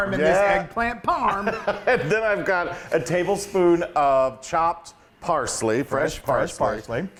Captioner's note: laugh